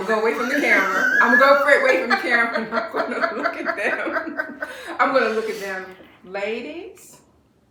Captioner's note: laughter